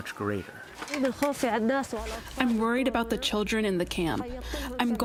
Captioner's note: through translator